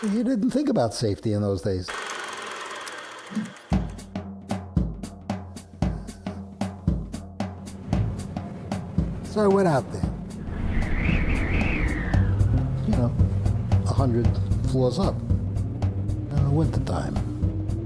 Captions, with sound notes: You didn't think about safety in those days. (soft jazz music) So I went out there. (wind blowing) You now, a hundred floors up in the wintertime.